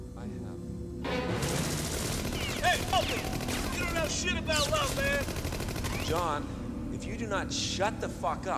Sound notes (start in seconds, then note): 1.1 intense fast music; 1.2 guns firing